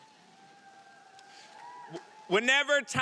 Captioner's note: audience cheering